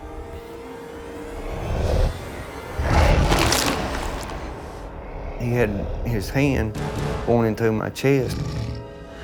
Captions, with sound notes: (growling) (squishing) He had his hand going through my chest.